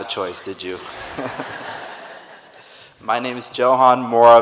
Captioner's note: audience laughing